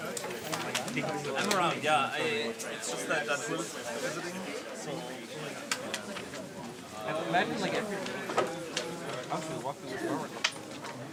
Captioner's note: indistinct conversation